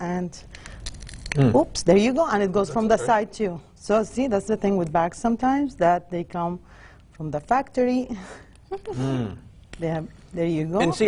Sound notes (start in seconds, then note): 8.7 chuckles